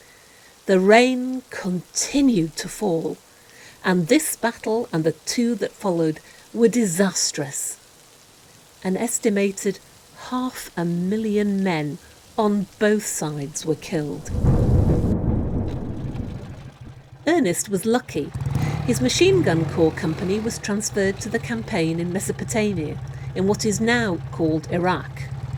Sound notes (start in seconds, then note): 14.1 thunder